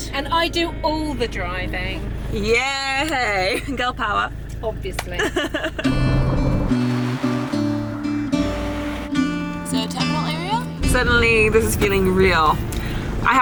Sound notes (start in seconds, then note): 5.1 laughing; 5.9 gentle music